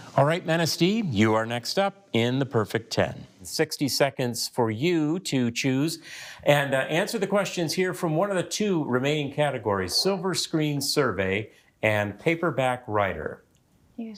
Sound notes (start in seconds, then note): none